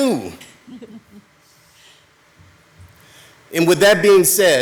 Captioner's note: attendees laughing